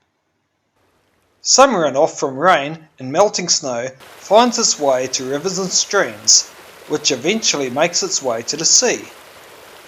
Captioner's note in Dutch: stromend water